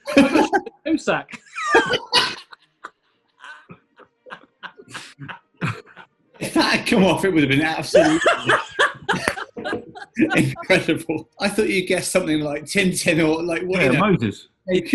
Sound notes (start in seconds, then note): 1.3 laughter; 1.3 laughing; 9.5 laughing